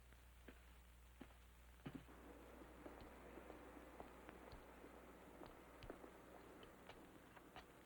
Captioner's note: none